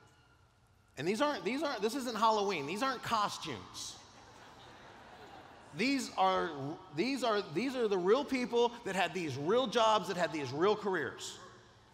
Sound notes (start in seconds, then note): 4.1 laughter